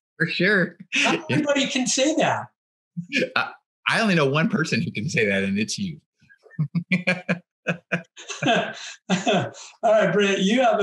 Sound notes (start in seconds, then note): 6.6 laughs